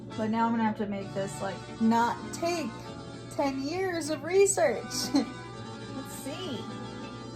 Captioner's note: laughs